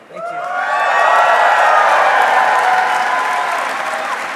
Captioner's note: audience cheering